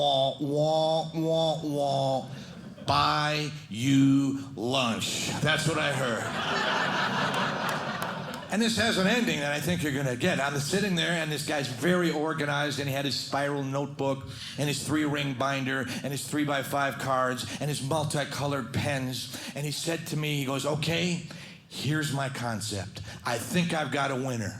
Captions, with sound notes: "Wah, wah, wah, wah, buy you lunch." That's what I heard. (audience laughing) And this has an ending that I think you're gonna get. I'm sitting there and this guy's very organized and he had his spiral notebook, and his three ring binder and his three by five cards and his multicolored pens. And he said to me, he goes, "Okay, here's my concept. "I think I've got a winner.